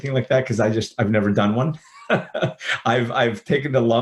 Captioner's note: chuckles